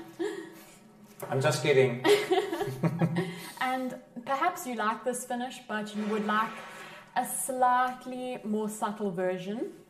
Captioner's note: laughter